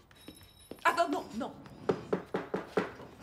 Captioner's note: knocking